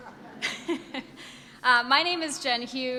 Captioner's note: audience laughs